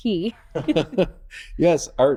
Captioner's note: both laughing